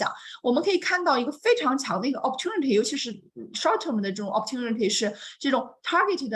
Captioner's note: continues speaking in Mandarin